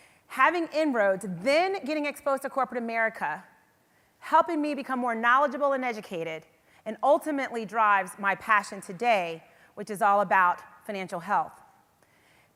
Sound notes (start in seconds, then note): none